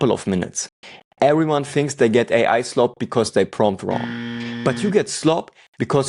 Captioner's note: buzzer